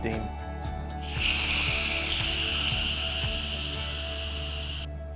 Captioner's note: steam hissing